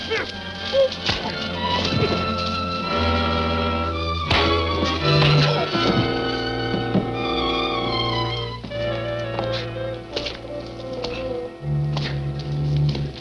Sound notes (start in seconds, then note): 1.2 fists thudding